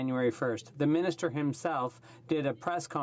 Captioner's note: speaking in french